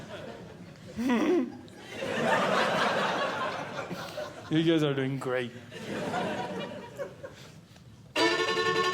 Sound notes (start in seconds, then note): 0.0 audience Laughing; 0.8 laughs; 1.6 audience Laughing; 5.6 audience Laughing; 8.1 upbeat Violin